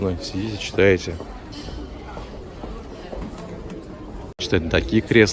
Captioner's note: footsteps